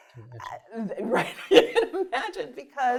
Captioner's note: laughs